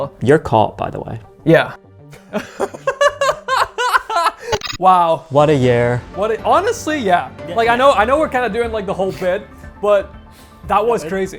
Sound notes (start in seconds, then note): 2.1 both laughing